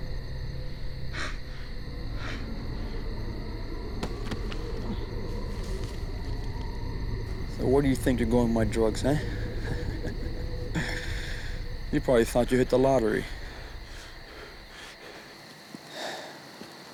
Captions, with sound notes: >>SO WHERE DO YOU THINK YOU'RE GOING WITH MY DRUGS, HUH? [chuckling] YOU PROBABLY THOUGHT YOU HIT THE LOTTERY.